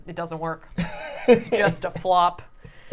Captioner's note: laughs